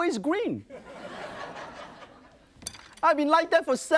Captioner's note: audience laughs